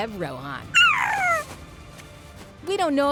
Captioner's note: cooing